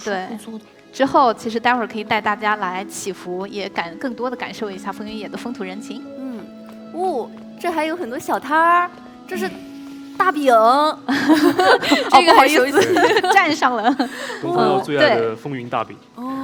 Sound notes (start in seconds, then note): 11.1 laughs